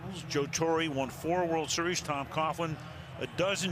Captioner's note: cheering